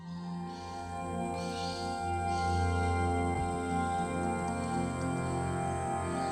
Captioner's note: birds chirping